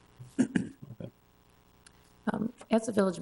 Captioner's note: coughs